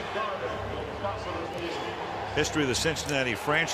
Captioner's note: pa announcement